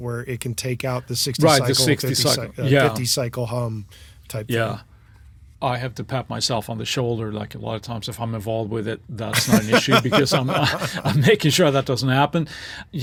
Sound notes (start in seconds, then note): 5.1 laughs